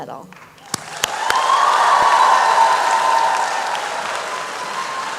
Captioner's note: applause and cheering